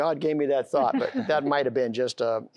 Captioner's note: laughter